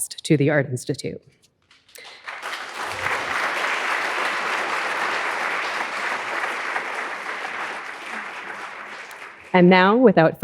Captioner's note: audience applauding